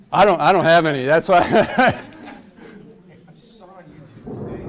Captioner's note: laughs